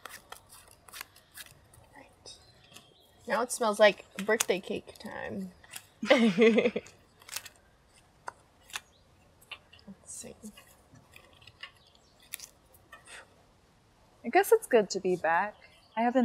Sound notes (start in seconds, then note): 6.0 both chuckling